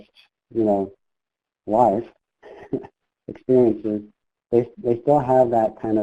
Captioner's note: chuckles